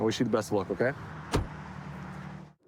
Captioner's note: door bangs